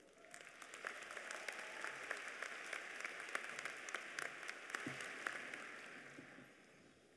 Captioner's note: applause